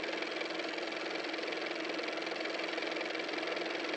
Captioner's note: car motor